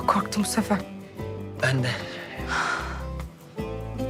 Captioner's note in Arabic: تنهد مقصود